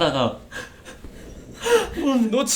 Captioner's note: crying loudly